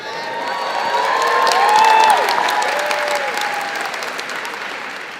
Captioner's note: crowd cheering and clapping